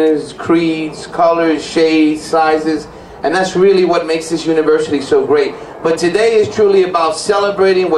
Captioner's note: none